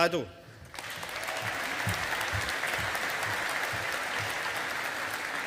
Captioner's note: audience applauding